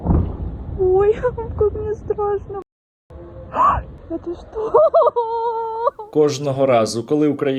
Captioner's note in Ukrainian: плаче